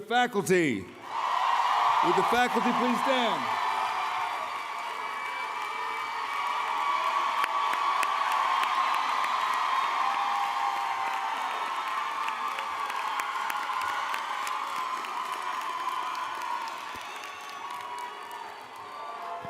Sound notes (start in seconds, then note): 6.1 cheering